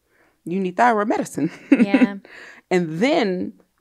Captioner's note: laughs